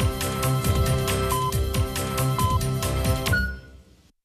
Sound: electronic beeping

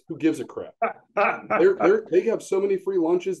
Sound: laughs

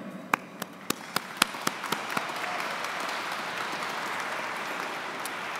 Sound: audience clapping

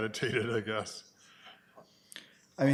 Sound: chuckles

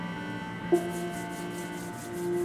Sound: hands rub

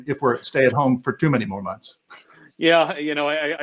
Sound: laughs

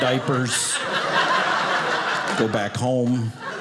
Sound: audience laughing

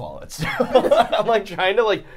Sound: laughing

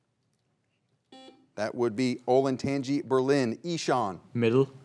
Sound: buzzer beeps once

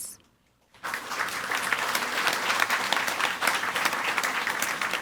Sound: audience applauding

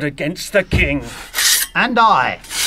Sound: A sword being drawn

